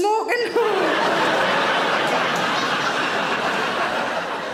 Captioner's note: audience laughing